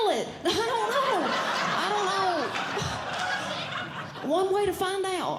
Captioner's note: audience Laughing